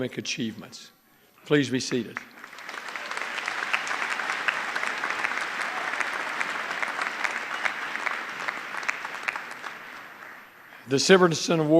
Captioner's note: applause